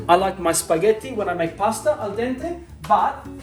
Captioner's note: speaking Italian